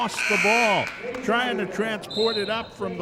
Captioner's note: buzzer sounding; referee whistling